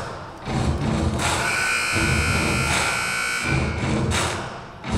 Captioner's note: buzzer buzzing